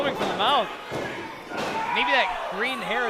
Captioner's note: floor banging